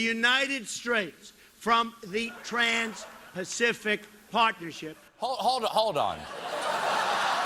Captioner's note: laughter